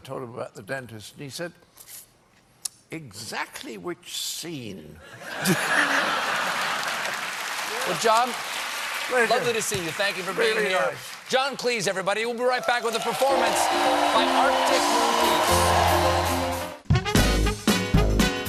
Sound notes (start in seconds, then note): 5.1 laughter; 6.0 applause; 15.6 band playing; 15.6 cheers and applause